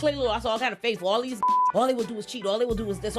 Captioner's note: beep